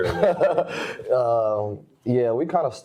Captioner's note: laughs